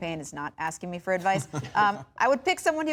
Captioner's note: laughter